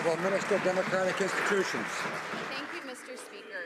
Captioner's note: some Applause